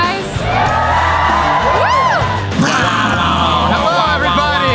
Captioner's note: audience cheering